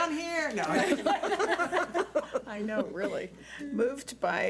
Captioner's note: laughing